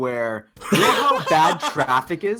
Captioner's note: they laugh